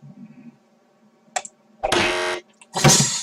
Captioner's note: loud beep; slam